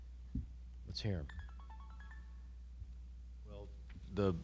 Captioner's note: phone chimes